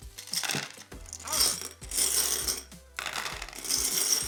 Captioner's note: marbles crushing